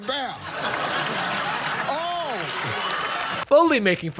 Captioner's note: crowd laughing